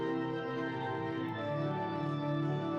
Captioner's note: none